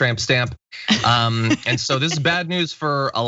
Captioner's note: laugh